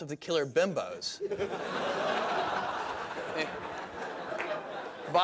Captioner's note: laughter